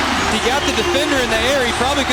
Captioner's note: voiceover